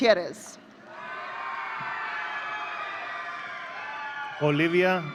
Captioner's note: audience cheering